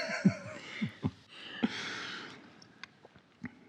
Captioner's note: both laughing